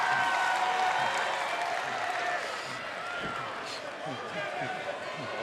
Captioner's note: cheers & applause